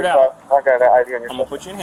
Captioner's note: radio chatter